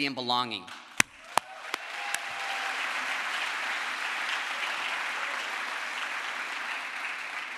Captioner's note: crowd applause